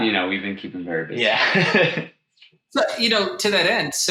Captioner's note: laughs